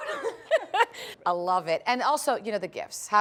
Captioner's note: laughter